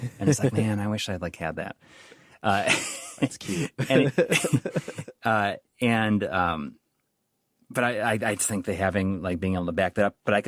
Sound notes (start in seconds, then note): 3.0 laughs